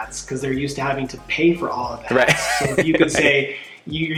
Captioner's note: laughs